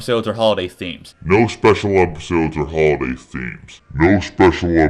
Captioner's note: distorted